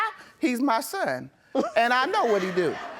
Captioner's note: audience laughs